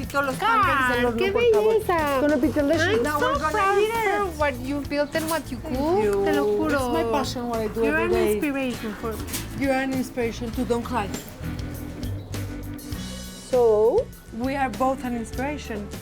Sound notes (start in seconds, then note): 5.7 speaking Spanish